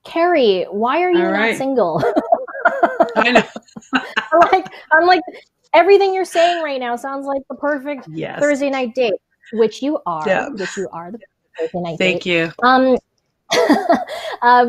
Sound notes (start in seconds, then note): 1.2 laughs; 1.8 both laugh; 13.5 laughs